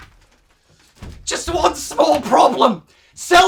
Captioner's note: bemused yelling